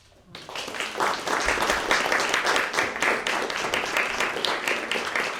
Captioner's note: applause